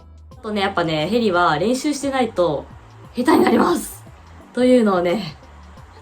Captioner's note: laughs